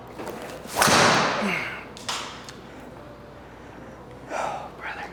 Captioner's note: golf club hits ball; whispers